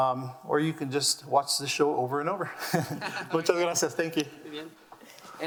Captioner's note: laughs